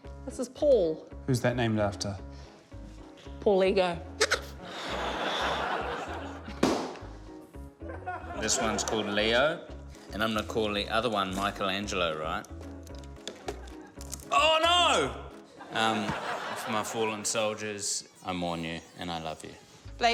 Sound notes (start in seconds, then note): 4.3 balloon toots, audience laughs; 6.6 pop!